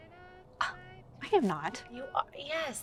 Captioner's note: Cher scoffs